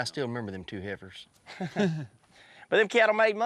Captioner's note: chuckling